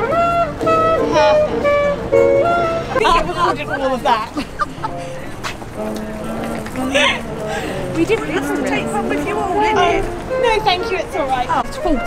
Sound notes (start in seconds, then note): 0.1 jazzy music; 4.7 laughs